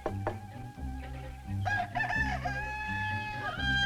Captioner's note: rooster crowing